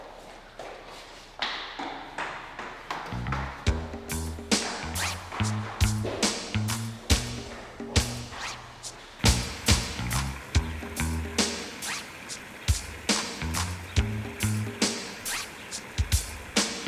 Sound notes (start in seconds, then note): 0.0 footsteps clattering; 4.7 upbeat music